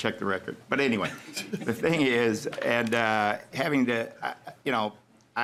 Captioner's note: laughing